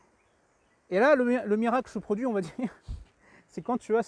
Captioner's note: laughs